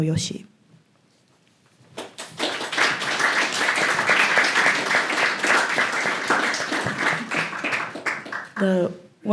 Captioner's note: applause